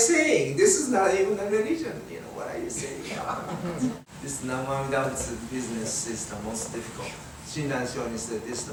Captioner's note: everyone chuckles